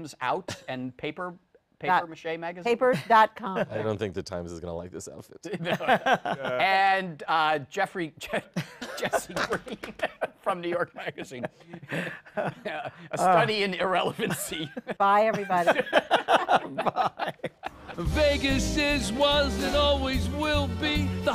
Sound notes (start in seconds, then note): 11.5 laughter